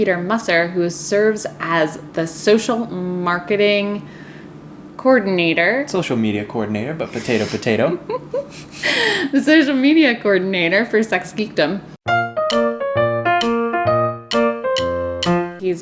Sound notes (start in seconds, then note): 7.1 laughs